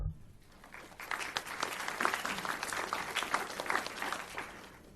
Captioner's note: audience applauds